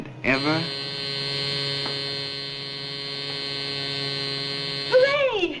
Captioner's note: door buzzer